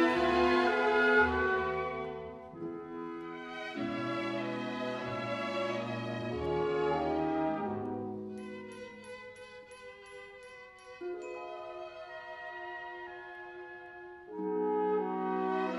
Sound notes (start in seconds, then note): none